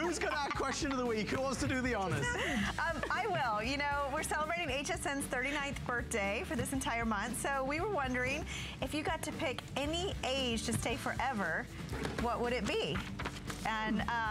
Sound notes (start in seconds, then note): 0.0 laughter; 2.0 laughter